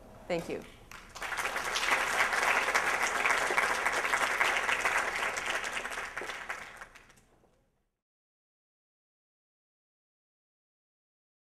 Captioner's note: applause